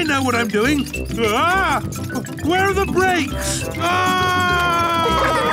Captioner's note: scream